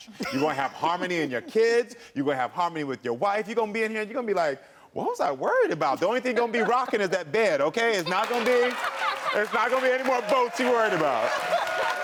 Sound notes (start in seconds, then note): 8.0 cheering